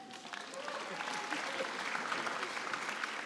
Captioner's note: applause